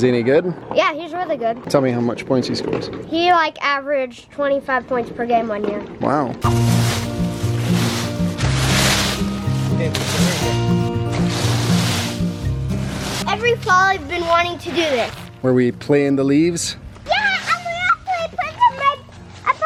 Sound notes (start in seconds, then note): 6.9 raking; 8.4 light music